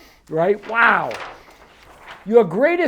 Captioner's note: paper rustles